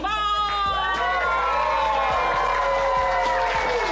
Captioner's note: cheering and applause